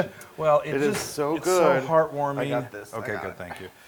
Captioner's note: laugh